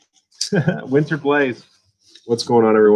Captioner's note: laughs